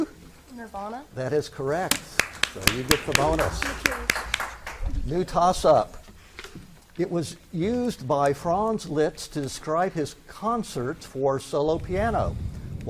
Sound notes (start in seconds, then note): 1.9 spectators clap